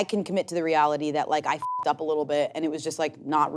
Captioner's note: beep